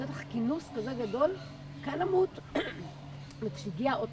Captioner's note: clear throat